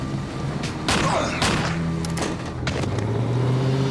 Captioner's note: gunshots